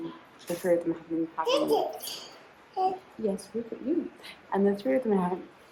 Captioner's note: babbling